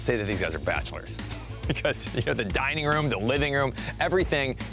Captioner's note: chuckles